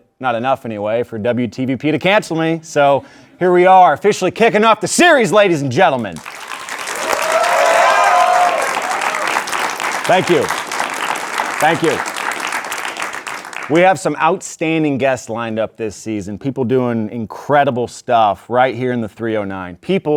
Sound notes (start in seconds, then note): 6.2 audience cheering and clapping